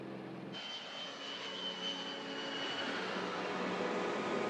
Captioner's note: aircraft flying overhead